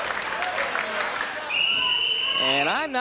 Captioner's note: whistle blowing